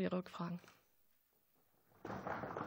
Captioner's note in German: Beifall